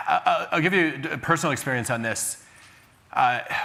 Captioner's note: none